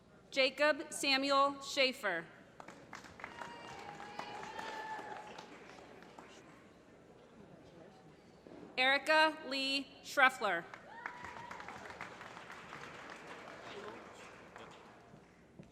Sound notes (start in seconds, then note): 2.6 applause; 10.6 applause